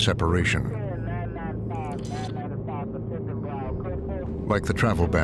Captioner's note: people talking on radio